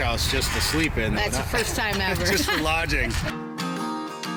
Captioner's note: laughs; upbeat folk music